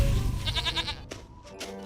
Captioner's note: bleats